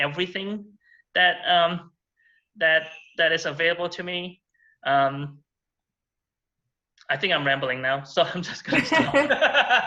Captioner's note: laughter